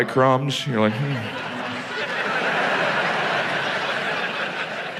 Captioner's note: audience laughs